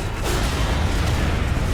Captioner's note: helicopter sputtering; metal clanging; gunshots banging